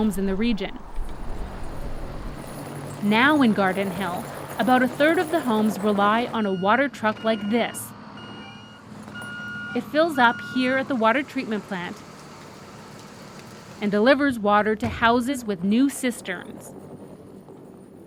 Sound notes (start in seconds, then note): 7.7 truck beeps